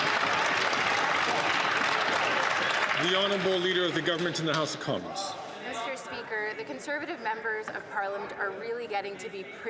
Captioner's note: applause